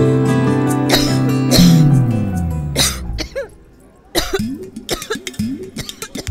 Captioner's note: Kanta coughing